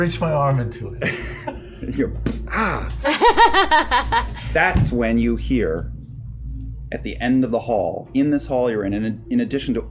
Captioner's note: impact